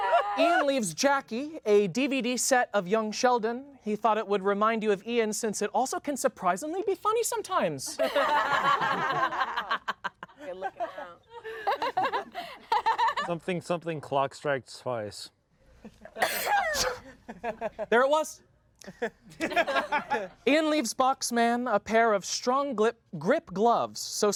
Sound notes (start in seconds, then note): 8.0 everyone laughs; 16.2 sneezes; 18.9 everyone laughs